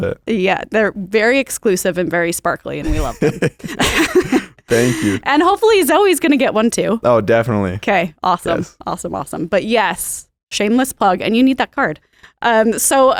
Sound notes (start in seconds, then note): 2.8 both laugh